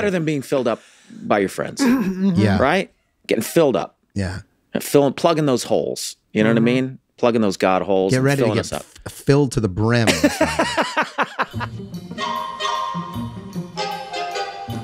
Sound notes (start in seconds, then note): 10.0 glen laughs; 11.7 peppy theme music